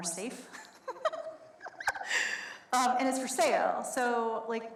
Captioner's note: laughs